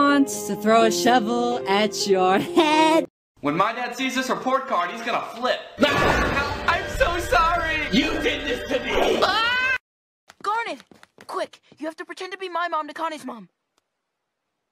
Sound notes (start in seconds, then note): 5.7 dad screams; 9.2 girl screams